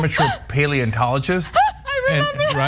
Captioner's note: laugh